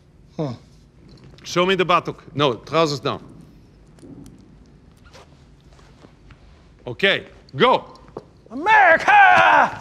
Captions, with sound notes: Hmm. Show me the buttock. No, trousers down. [zipper opens] Okay. Go. America!